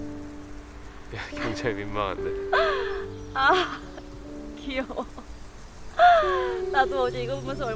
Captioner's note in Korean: 웃음